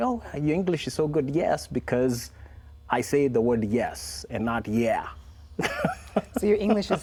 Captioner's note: laughs